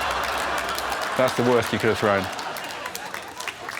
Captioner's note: laughter